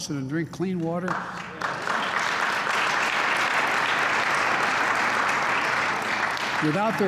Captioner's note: applause